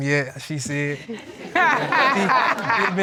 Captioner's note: all laughing